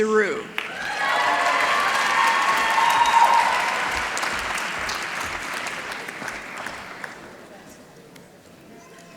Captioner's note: applause